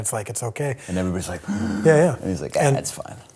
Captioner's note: gasp